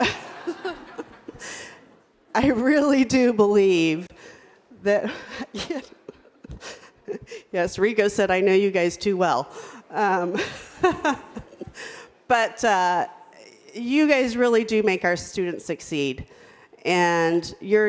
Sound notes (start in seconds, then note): 0.0 everyone laughs; 5.1 laughs; 11.1 laughs